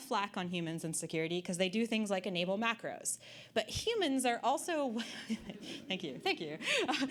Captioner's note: audience Laughter